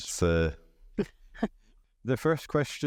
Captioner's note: chuckles